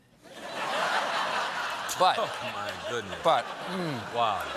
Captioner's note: laughter